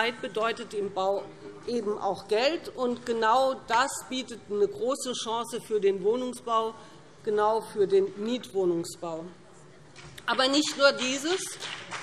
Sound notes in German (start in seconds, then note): 8.2 Vereinzelter Beifall BÜNDNIS 90/DIE GRÜNEN